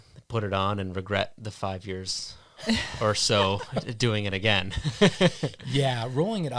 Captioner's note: laughs